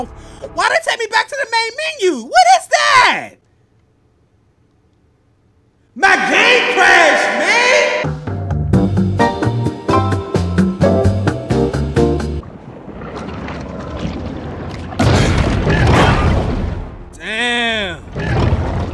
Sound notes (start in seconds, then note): 5.9 voice with reverb; 8.4 elevator music; 12.5 growling